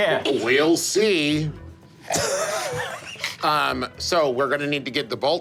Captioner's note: laughing